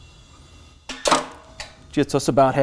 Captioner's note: transmission jack clicks into place